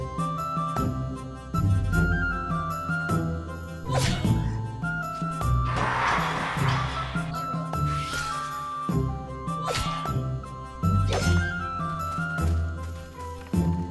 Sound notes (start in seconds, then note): 5.6 roaring